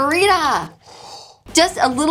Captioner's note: blowing air